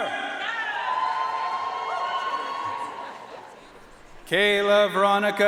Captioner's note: audience cheering and applauding